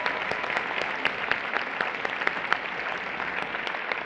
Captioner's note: applause